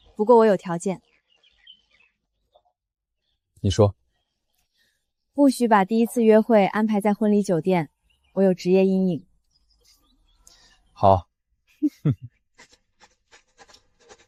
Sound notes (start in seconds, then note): 11.8 chuckles